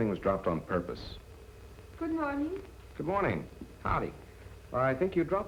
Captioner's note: none